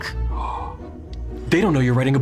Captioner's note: gasps